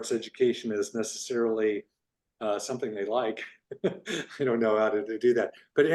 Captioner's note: laughs